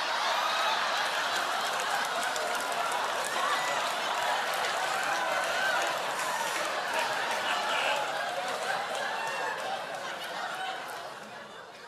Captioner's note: laughter